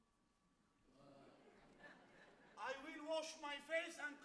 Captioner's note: audience laughs